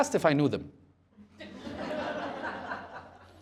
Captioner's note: laughter